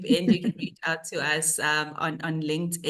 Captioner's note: panellist laughing